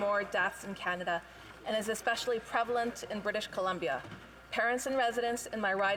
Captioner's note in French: voix de l'interprète